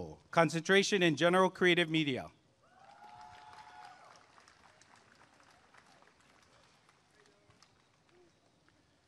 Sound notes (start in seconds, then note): 2.7 applause and cheering